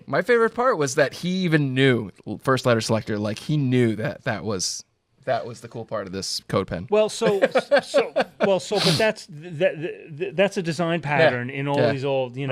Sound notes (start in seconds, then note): 7.2 laughs